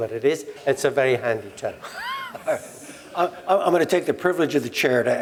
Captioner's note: laugh